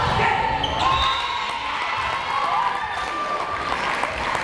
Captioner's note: players cheering